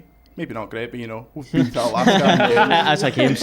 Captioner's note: laughter